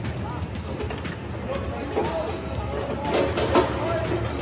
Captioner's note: heavy machinery rumbling